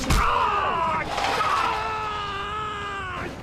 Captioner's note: screaming